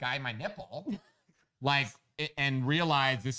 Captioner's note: laughs